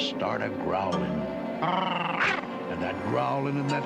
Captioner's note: all growling